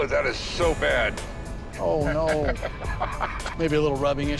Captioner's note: chuckling